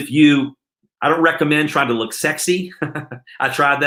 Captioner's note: laughs